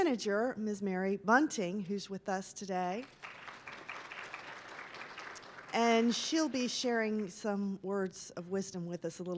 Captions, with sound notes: Miss Mary Bunting, who's with us today. (applause) And she'll be sharing some words of wisdom with us